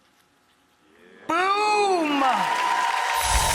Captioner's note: audience exclaims